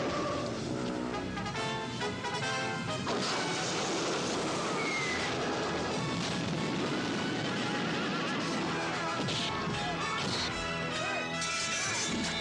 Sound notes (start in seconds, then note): 0.1 dramatic music; 3.2 fire hissing; 4.6 log whistling; 6.6 horses stampeding; 8.5 dramatic music; 8.5 men shouting